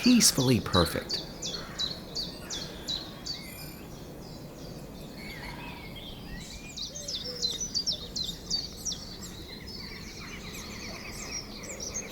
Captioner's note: birds chirping